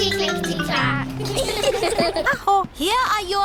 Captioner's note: all giggle